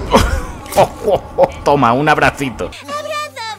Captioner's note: laughs